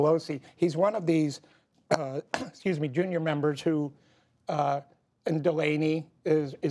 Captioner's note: coughs